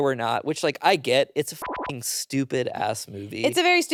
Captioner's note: beep